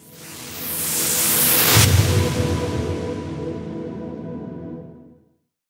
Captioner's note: whooshing